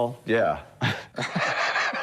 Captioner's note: laughter